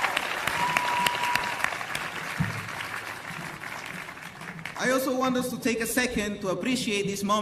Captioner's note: cheers and applause